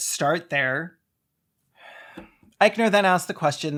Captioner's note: breathes to live but like it’s effort